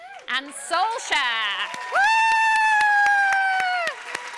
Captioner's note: cheering and applause